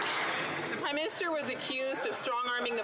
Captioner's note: some Applause